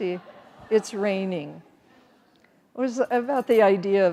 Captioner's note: audience laughing